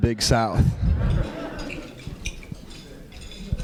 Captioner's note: laughter